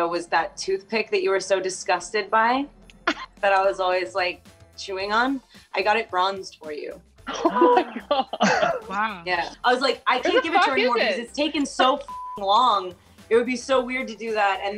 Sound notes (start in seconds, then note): 7.3 laughing; 11.9 beep